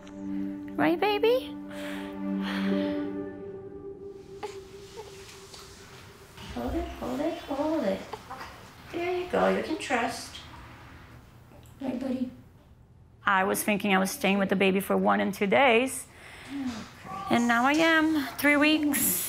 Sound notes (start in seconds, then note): 4.2 baby fussing